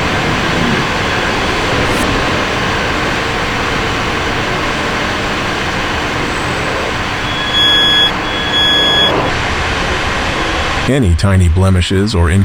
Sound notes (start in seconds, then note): 0.0 engine revving; 0.0 tires screeching